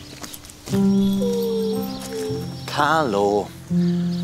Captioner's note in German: Winseln